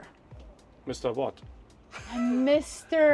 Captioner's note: laughs